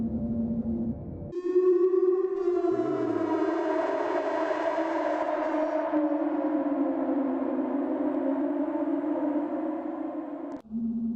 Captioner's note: strange, ghostly sound outside